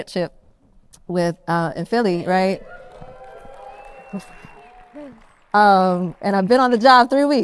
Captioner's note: audience cheers